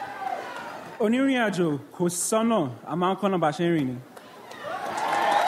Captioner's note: speaks in foreign language; audience applauds